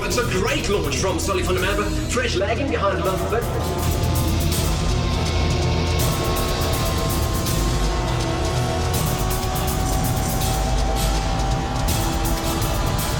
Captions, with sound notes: It's a great launch from Solly van de Merwe, Fresh lagging behind a little bit. (cars revving) (suspenseful music)